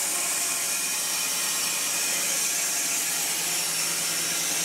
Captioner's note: saw whirring